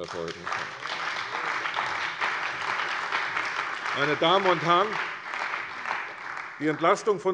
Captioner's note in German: Beifall bei der CDU und dem BÜNDNIS 90/DIE GRÜNEN